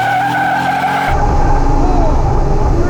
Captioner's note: car screeching